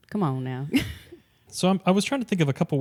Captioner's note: laughs